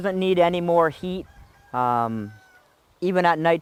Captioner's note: rooster crowing